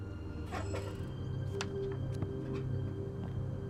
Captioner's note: faint creak